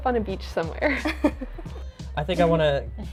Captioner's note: laughs